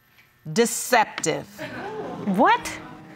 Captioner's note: audience gasps